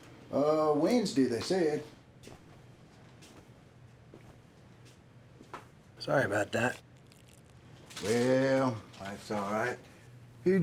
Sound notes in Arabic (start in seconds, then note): 1.8 خطوات بطيئة